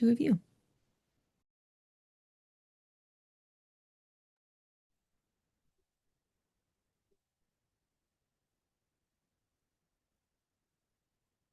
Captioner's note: silence